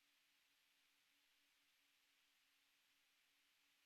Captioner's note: none